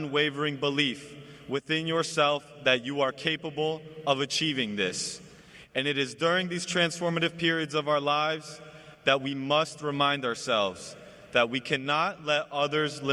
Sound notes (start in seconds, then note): none